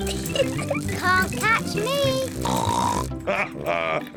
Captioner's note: giggles; snorts